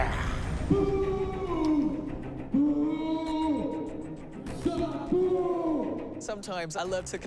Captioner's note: Momoa grunts; Wan over microphone